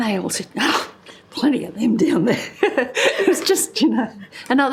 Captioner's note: laughter